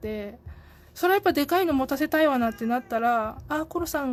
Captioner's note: cat meowing